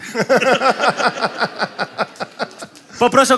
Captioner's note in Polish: śmiech